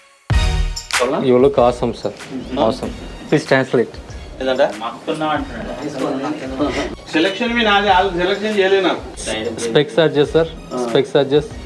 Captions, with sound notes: You look awesome sir. Awesome. Please translate. [ Chatter in Telugu ] Adjust your specs sir. Specs adjust.